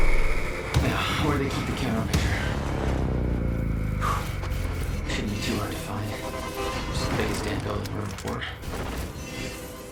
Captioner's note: sighs